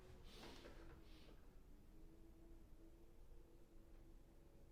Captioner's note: breathing in